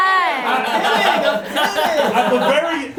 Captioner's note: laughing